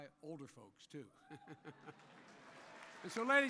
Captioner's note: laughter and applause